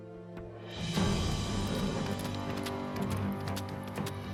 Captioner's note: suspense music; hoofbeats; suspense music